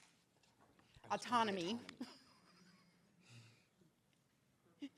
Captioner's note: laughs